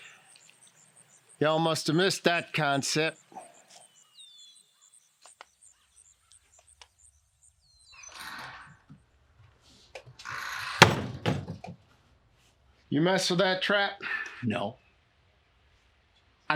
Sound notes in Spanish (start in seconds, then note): 4.7 pájaros cantando